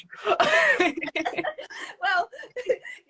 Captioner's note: both laughing